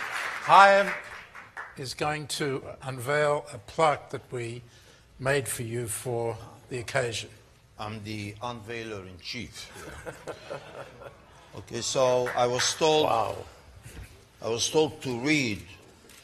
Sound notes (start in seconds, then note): 9.7 laughter